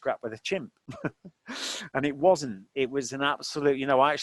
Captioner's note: laughing